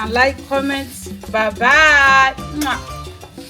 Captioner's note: kisses